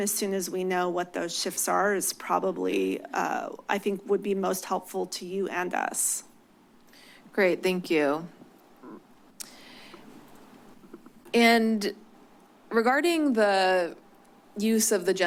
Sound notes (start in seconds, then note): 8.8 clicks tongue